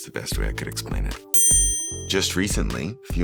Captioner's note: bell chimes